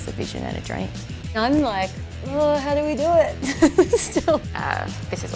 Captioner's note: laughs